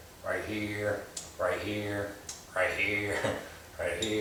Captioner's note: laughing